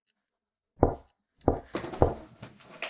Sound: knock-knock-knock

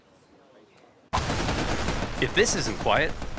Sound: guns firing loudly

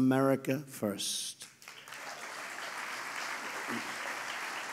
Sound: applause

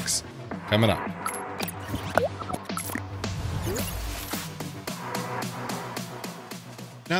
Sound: upbeat music; electronic tone beeping

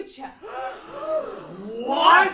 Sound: so many gasps

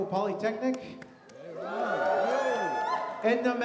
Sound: audience cheers

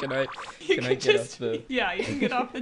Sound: all laughing

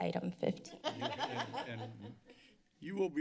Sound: laughter

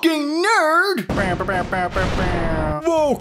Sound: explosions, oohs, dab on them scientists

